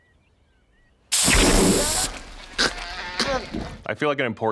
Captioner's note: spray can hisses